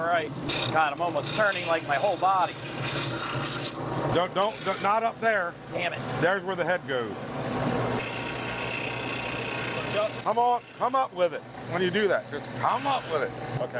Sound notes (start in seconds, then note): 7.5 sander humming